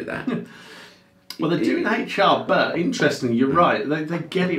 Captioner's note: chuckles